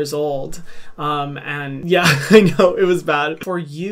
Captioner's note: laughs